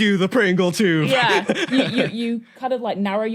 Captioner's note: wheezes